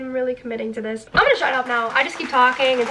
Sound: audience clapping

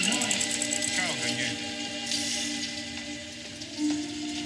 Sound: Maurizio speaks in Italian

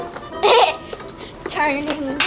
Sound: girl giggles

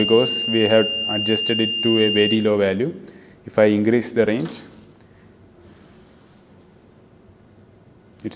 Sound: buzzer

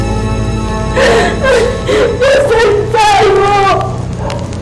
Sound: sobs

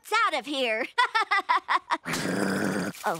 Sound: laughing; growling

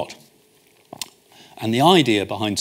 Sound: smacks lips

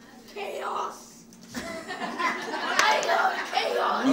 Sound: audience laughs

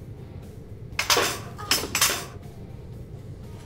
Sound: rattling tool

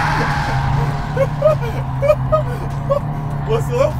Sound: laughing

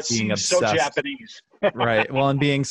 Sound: laughing

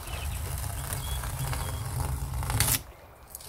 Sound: lapping water and birdsong sounds; peeling off masking tape sounds

